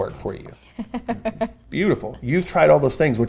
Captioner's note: laughs